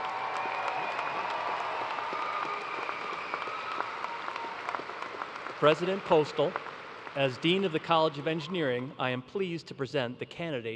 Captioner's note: cheers and applause